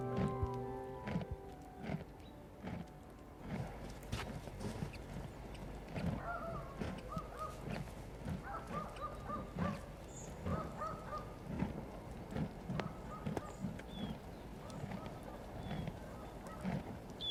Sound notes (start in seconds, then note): 0.1 chomping grass; 5.6 barking